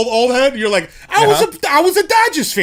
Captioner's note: speaking with brooklyn accent